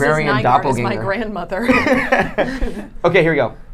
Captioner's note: laughing